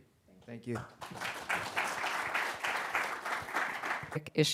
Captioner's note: applause